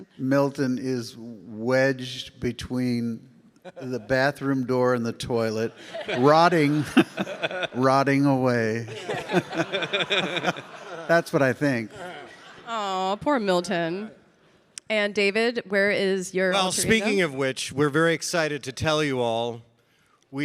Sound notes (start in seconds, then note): 6.1 audience laughing; 8.8 laughs